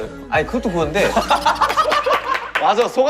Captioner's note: hahaha